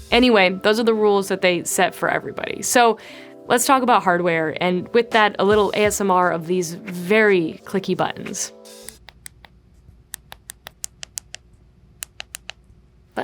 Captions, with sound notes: Anyway, those are the rules that they set for everybody. So let's talk about hardware. And with that, a little ASMR of these very clicky buttons. (button clicking)